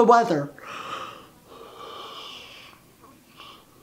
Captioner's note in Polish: Ziewanie